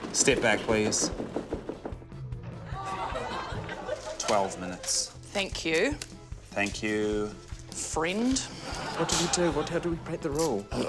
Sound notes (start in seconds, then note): 2.6 groans, laughter; 8.6 laughter